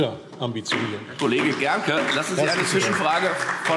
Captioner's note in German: Beifall DIE LINKE